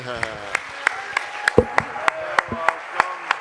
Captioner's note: cheers and applause